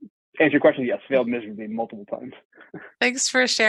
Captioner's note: laughs